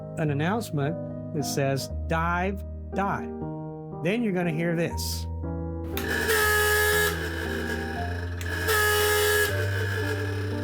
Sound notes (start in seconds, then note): 5.9 machine honking